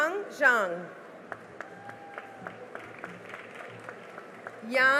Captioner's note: cheering and applause